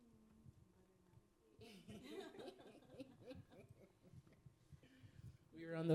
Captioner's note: panelists faintly chattering, laughing